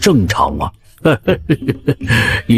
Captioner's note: mischievous chuckling